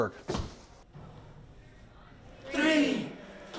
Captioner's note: audience applauding